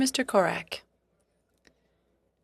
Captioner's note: speaking French